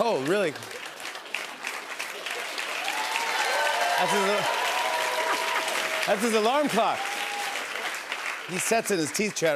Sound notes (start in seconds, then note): 1.8 cheers and applause; 4.3 laughs